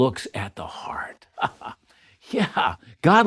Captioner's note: chuckles